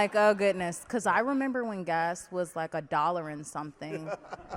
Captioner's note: laughs